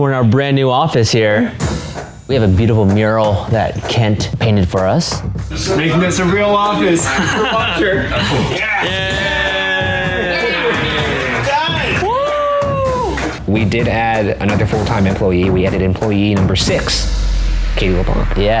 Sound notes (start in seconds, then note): 6.8 men laughing; 9.1 all cheering